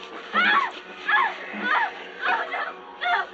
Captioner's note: screaming